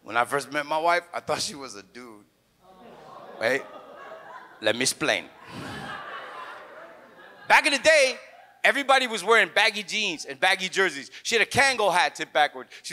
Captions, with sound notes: When I first met my wife, I thought she was a dude. (audience laughs) Hey- let me explain. (audience guffaws) Back in the day, everybody was wearing baggy jeans and baggy jerseys. She had a Kangol hat tipped backwards.